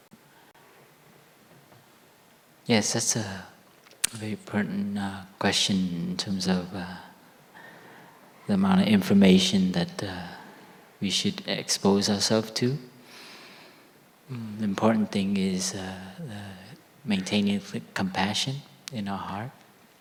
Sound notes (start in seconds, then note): none